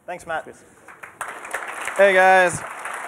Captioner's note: applause